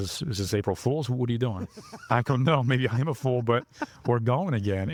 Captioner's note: laughing